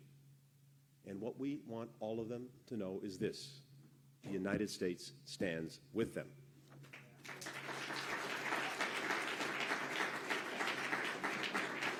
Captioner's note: applause